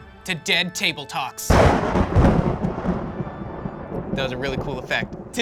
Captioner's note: thunder claps